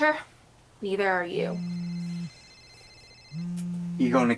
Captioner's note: phone rings and vibrates